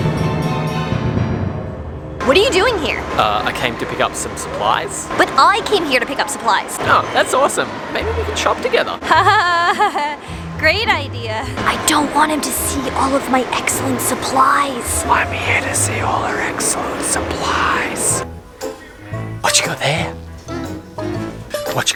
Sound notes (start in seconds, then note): 0.1 suspenseful music; 8.9 laughing nervously